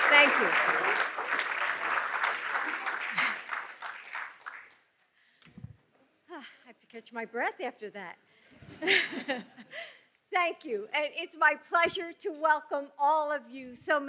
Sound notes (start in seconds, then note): 9.6 laughs